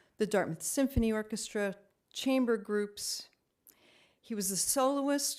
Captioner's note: none